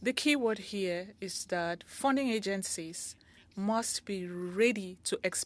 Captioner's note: speaking French